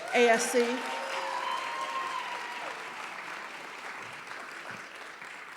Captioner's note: audience cheering and applauding